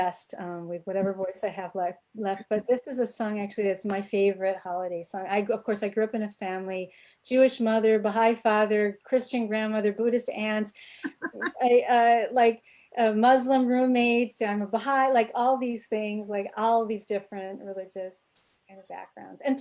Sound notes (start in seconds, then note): 11.0 laughing